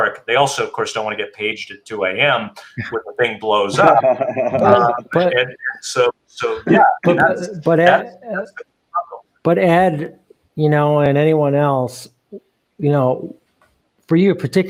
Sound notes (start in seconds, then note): 3.6 chuckling